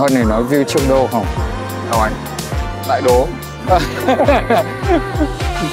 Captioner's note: laugh